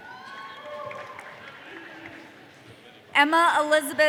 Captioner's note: audience cheering